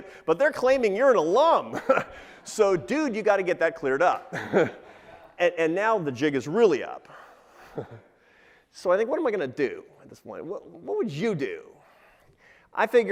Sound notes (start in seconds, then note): 1.9 laughs